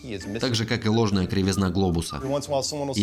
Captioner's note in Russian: насвистывает